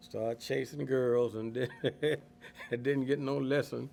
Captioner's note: laughing